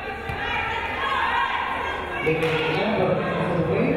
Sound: crowd cheering

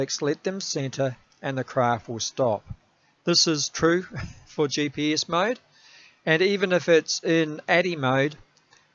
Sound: laughs

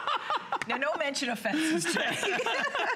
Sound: laughter

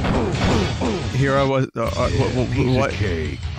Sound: stammering

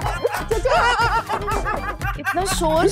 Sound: laughing

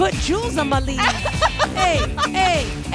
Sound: Ashley laughs

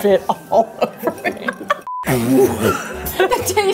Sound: laughing

